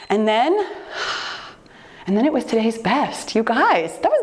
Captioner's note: timer beeps; sighing